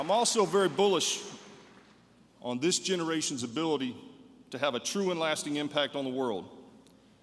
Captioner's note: applause